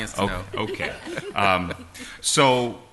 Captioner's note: laughter